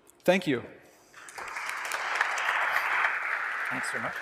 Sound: applause

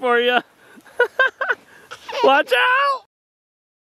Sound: laughing

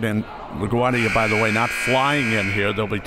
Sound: buzzer

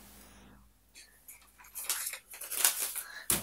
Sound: rustles

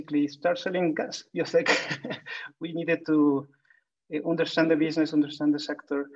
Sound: laughs

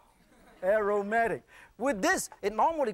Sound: laughter

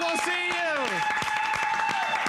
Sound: applause

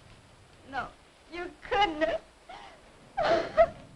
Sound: sobs

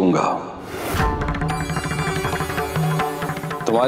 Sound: conch blows

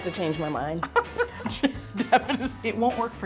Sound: laughing

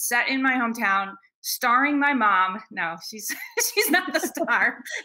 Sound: both laughing

